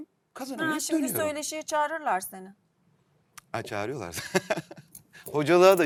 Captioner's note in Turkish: kahkaha